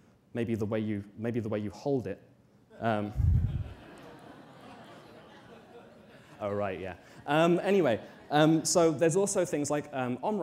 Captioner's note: audience laughter